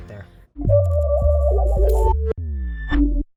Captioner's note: logo warbling and chiming